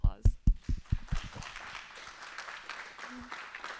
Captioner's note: applause